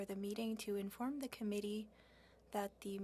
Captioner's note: speaking FRENCH